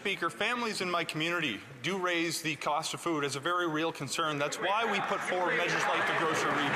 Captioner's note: applause